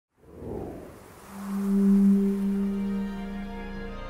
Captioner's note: sound effects playing